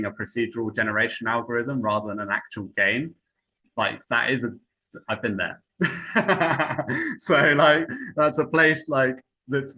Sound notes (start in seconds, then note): 5.8 laughs